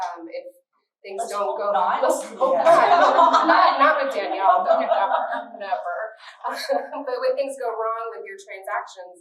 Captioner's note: laughter